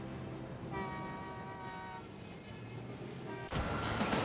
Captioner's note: horn honking